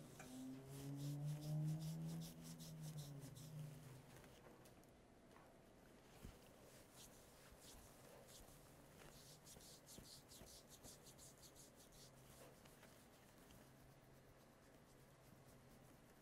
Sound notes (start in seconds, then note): 0.3 skin rubbing